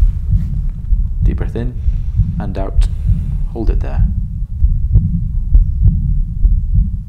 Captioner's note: Aorta-mislyd stiger med udånding